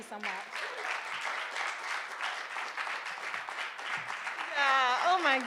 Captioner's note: audience applauding